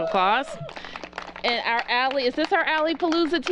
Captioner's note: applause